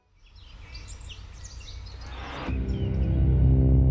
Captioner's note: birds chirping; dramatic music